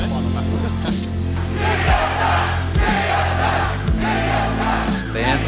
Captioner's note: Crowd chanting "TSM"